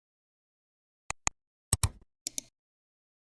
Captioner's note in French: 3 différents clics